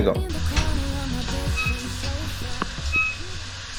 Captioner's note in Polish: odgłos wody